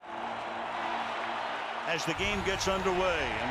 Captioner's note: cheering